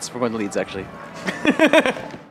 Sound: laugh

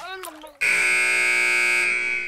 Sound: buzzer

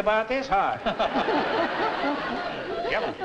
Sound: laughter

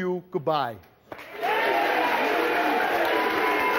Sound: audience cheering; audience applauding

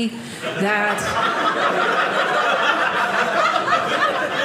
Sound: audience laughing

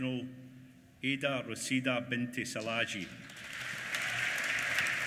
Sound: applause

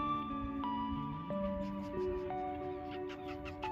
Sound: bird sounds

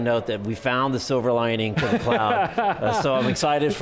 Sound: laughing

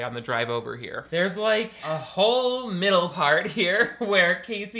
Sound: laughs

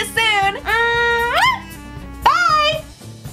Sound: kiss sound

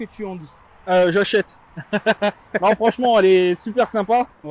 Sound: laughs

